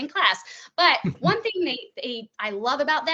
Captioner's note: chuckling